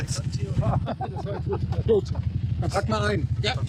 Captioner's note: laughter